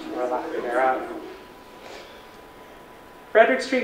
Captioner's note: audience laughter